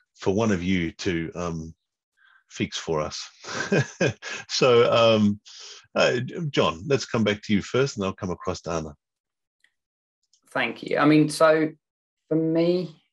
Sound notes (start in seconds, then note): 2.7 chuckles